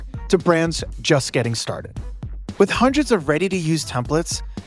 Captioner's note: none